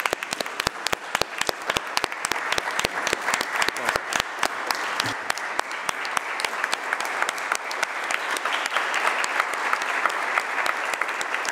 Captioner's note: applause